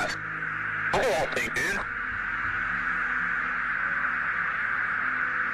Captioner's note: garbled speech over radio